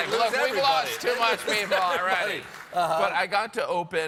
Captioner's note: laughter